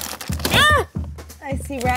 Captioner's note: screams